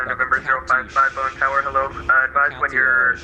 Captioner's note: radio chatter